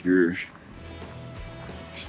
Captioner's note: wind blowing